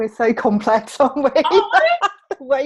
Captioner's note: laughs